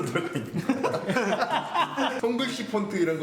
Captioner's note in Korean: 웃음소리